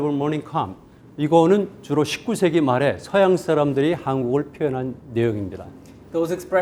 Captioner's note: speaking in Korean